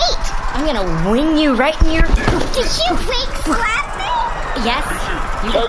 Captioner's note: slapping